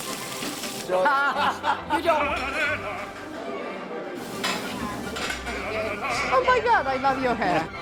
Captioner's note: laughing